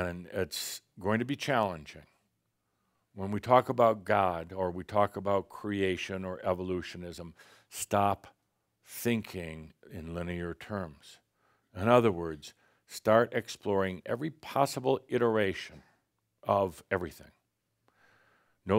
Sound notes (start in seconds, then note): none